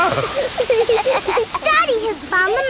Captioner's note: laughing